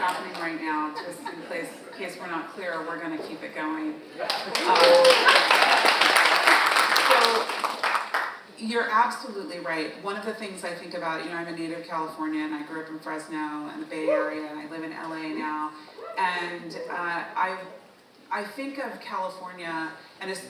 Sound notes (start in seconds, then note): 4.2 audience applauding; 4.6 audience member cheers